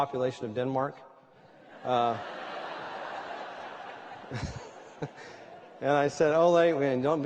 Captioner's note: laughter